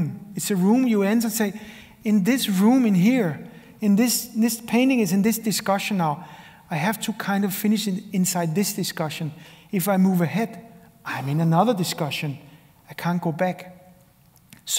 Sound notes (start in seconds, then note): none